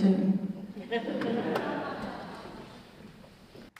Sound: audience laughter

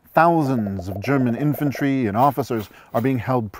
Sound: multiple pops

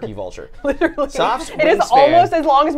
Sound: giggles

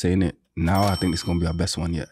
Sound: dinging sound plays

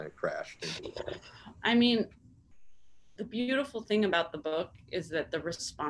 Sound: sighs

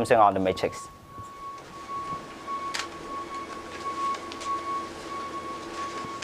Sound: electronic whine

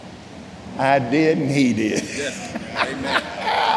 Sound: laughing

